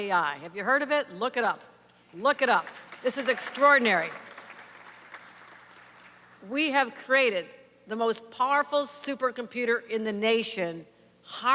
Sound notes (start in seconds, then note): 6.1 applause